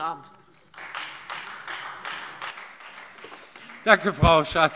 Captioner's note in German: Beifall